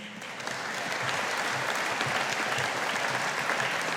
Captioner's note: audience applauding